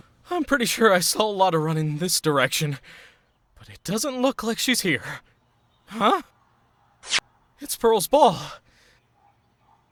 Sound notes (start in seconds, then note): 8.6 heavy breathing